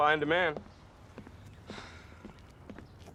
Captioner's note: sighs